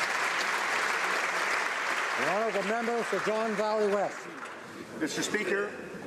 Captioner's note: applause